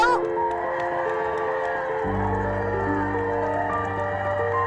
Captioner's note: crowd cheering